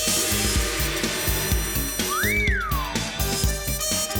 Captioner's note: whistles